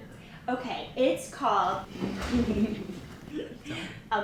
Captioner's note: giggling and whispering